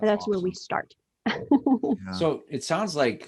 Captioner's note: laughs